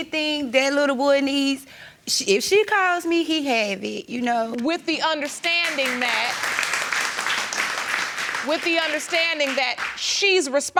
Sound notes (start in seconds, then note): 7.0 audience clapping